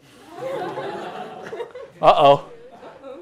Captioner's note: laughter